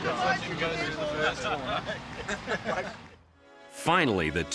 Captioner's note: group laughing